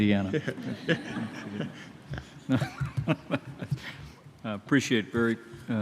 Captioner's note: laughter